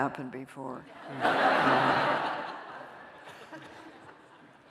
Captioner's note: laughter